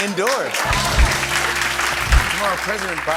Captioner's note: applause